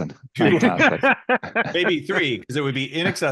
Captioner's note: laughing